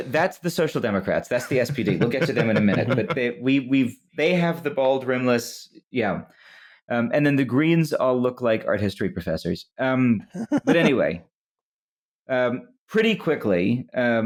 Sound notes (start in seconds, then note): 1.4 chuckles; 10.3 laughs